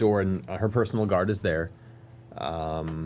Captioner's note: none